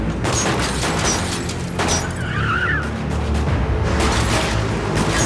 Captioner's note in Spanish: Disparos; Chirrido de llantas